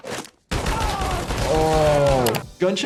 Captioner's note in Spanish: Ambos gritando; disparos